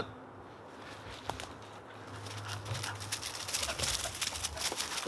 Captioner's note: panting